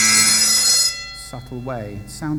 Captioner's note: loud ringing sound